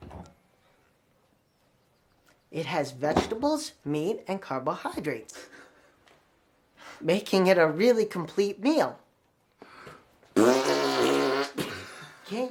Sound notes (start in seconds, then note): 5.4 Brett chuckles; 10.3 Brett vocalizing a fart